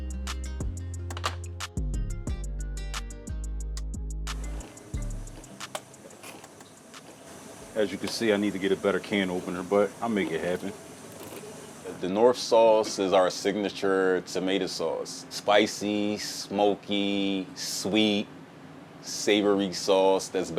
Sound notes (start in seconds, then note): 0.0 gentle music; 5.3 can opener clicking